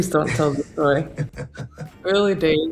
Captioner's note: Oscar laughing